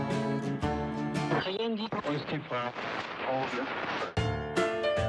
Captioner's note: radio static